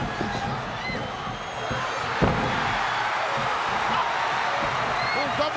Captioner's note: audience cheering